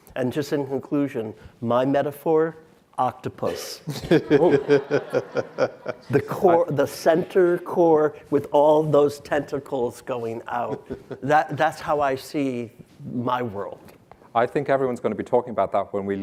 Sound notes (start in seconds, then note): 3.9 audience laughing